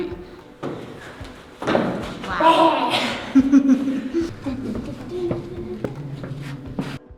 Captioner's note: screeches